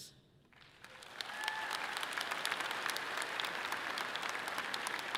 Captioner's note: audience clapping loudly